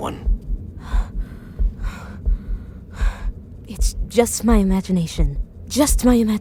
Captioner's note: breathing heavily